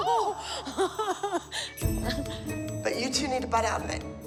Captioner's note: laughs